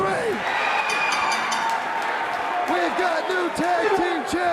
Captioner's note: bell ringing